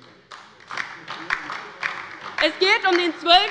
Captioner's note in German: Beifall bei der LINKEN